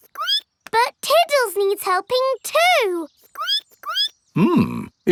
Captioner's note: squeaks